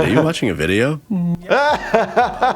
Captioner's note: laughing